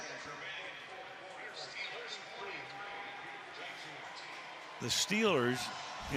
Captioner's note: pa announcement